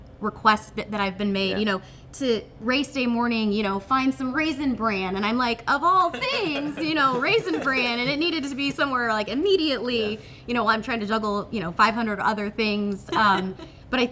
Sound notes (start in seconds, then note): 6.0 everyone laughing; 13.0 laughing